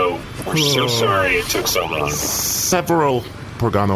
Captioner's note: sighs deeply